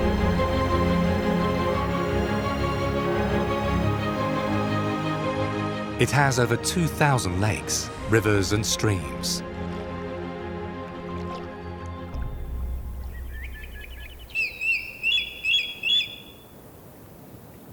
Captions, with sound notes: It has over 2,000 lakes, rivers, and streams. (gentle music) (bird calls)